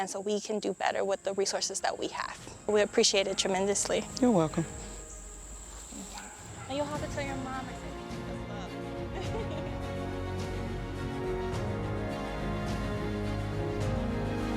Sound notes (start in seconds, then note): 7.9 gentle uplifting music; 9.1 chuckling; 10.4 gentle uplifting music